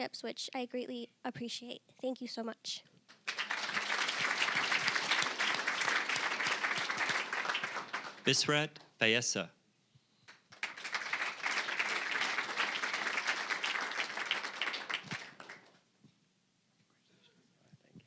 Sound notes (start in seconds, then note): 3.1 applause; 10.3 applause